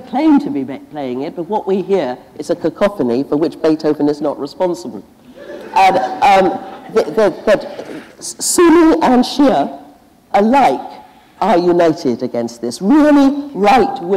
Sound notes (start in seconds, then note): 5.2 laughter